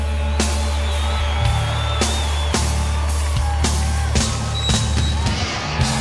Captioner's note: crowd cheering